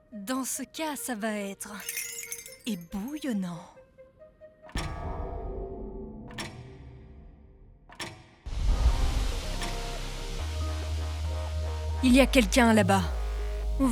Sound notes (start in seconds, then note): none